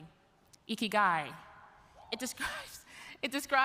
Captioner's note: speaking in Japanese